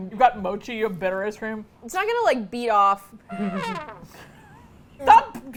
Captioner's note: sad trumpet; laughs; both chuckle